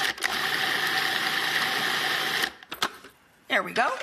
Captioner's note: grinding